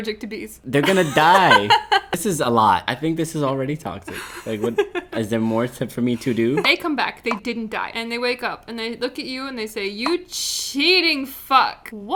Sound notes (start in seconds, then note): 0.8 laughing; 0.8 laughs